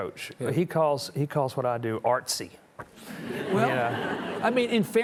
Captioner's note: audience chuckling